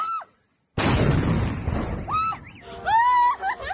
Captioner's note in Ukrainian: вибух